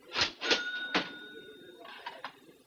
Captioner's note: register rings